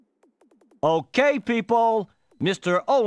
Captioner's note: normal voice